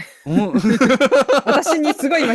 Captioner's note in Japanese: 笑い